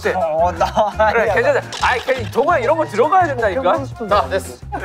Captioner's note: arguing